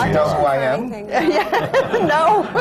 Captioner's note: laughter